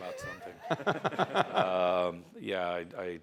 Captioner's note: laughter